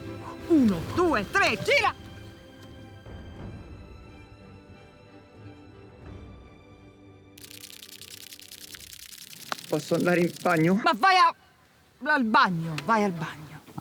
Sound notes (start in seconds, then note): 7.4 hissing sounds